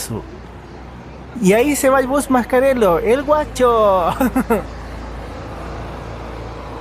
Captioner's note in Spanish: risas